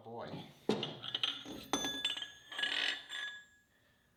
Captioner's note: spindle clinking